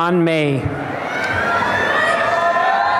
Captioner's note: cheering and applause